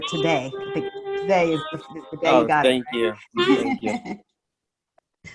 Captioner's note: chuckles